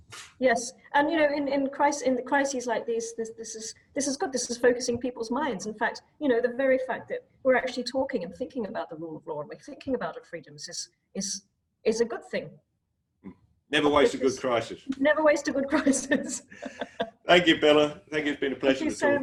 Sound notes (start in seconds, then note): 17.1 laughs